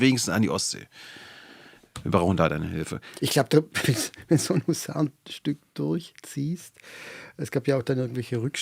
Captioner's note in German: gelächter